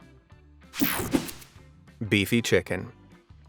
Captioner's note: whooshing sound